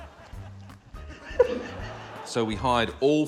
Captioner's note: chuckles